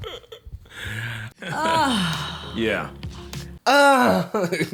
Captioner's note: choking noises; moans; laughs